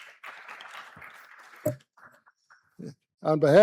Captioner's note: applause